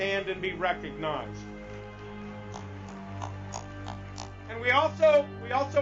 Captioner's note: audience clapping